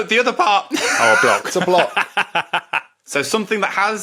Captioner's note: laughs